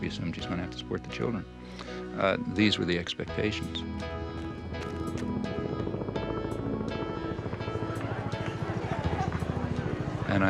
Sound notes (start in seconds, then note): 4.8 gentle music; 6.1 helicopter rotors whirring